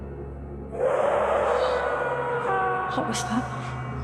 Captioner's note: scream